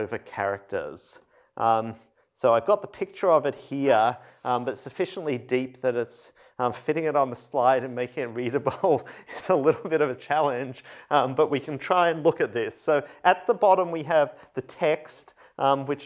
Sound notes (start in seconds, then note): 8.5 laughter